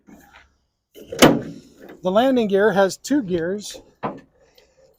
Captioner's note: metal thudding